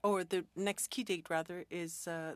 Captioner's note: speaking French